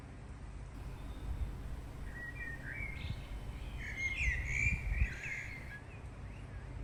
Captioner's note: birds singing